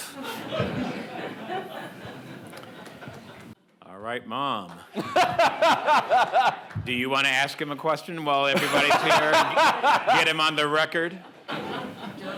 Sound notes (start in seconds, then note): 0.0 audience members laugh; 5.0 laughs